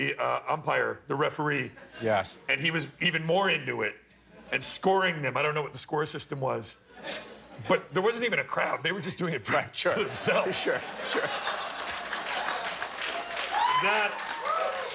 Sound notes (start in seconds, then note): 9.9 laughter